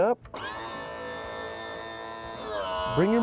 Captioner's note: whirring sound